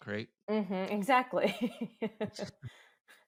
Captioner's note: laughs